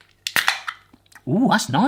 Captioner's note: can opens